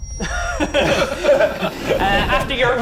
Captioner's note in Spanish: Efectos de sonido de transformación; Risas